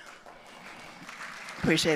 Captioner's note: audience applauding